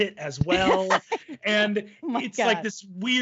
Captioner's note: laughs